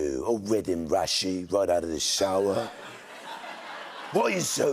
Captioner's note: laughter